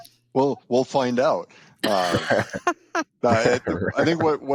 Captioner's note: laughing